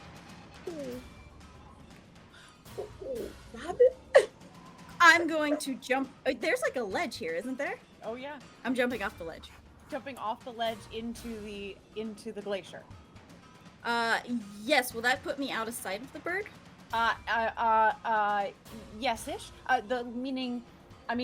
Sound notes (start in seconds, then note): 2.8 chuckles